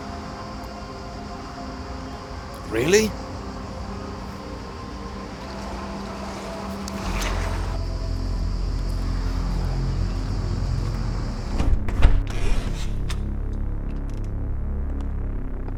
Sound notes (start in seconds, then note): 0.0 insects chirping; 0.3 dramatic music; 7.1 insects chirping; 12.4 door hinge creaking